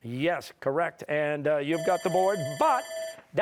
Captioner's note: bell ringing